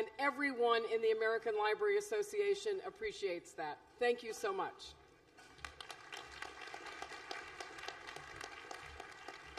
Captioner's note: applause